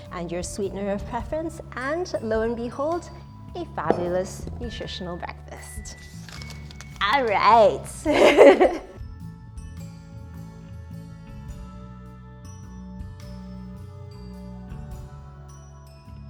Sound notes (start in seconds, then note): 7.9 laughs; 10.2 soft music